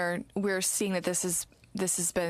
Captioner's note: speaking french